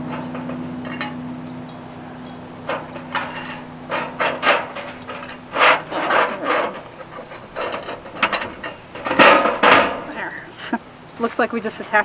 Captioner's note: scraping; metal scraping noises; laughing